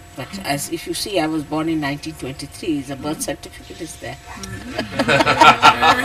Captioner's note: laughter